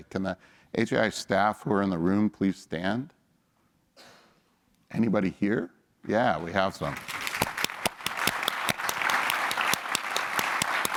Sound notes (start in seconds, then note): 6.8 applause